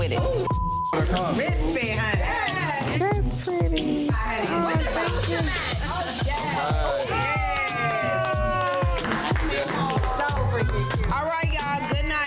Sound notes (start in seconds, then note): 3.1 crowd cheers